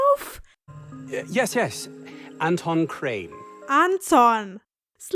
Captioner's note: pronounced german